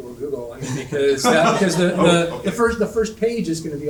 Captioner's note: panel laughing